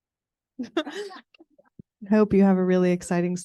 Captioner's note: group laughing